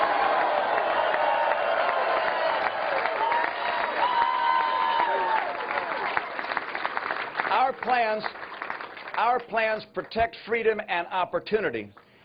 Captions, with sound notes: OUR PLANS PROTECT FREEDOM AND OPPORTUNITY, AND OUR BLUEPRINT IS THE CONSTITUTION OF THE 204 00:09:38,000 --> 00:09:37,999 UNITED STATES. [APPLAUSE]